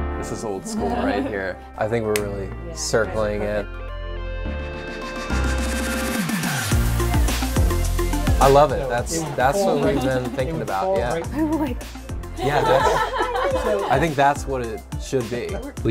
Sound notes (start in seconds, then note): 12.4 giddy giggles